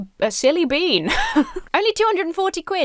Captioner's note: laughs